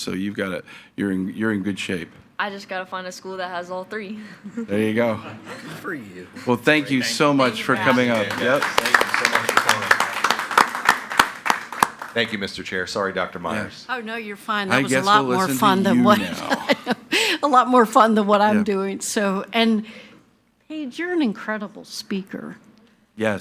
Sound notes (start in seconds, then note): 4.3 chuckles; 8.1 speaks faintly; 10.4 everyone applauding